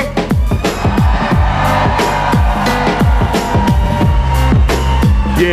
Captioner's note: cheers